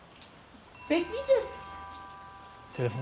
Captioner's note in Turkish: Telefon zili sesi